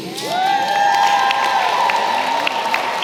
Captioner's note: applause